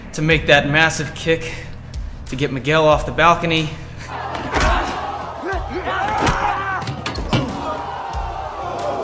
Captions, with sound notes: to make that massive kick to get Miguel off the balcony. (Crowd shouting) (kicks noise)